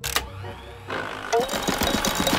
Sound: whirring

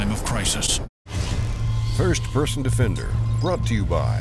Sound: voiceover

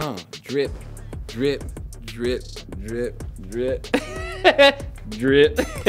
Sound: laughs

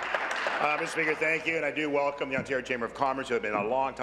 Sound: applause

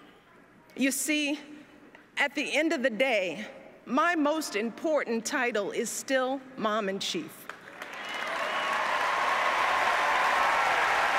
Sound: applause

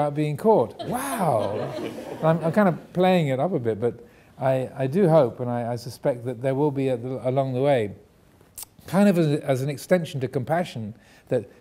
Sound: audience laughing

